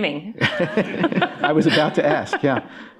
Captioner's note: laughter